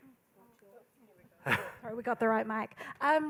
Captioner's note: laughing